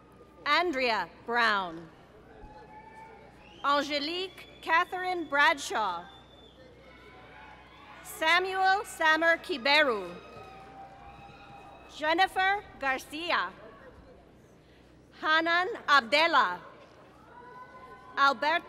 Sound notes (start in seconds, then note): 10.2 applause